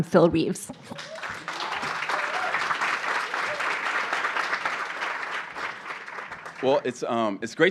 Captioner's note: applause